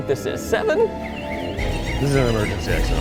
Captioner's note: alarm beeping